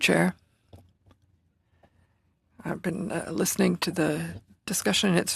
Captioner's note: speaking French